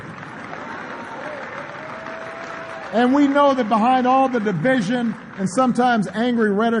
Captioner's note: applause